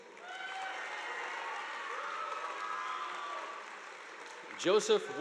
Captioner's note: audience applauding